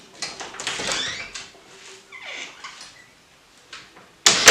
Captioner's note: door opens